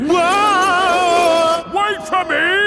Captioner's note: yelling